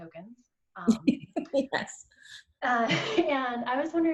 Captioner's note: laughs